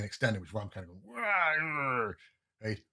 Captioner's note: frustrated growl